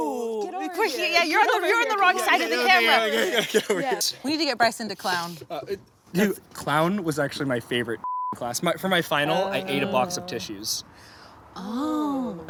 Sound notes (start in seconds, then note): 8.0 beep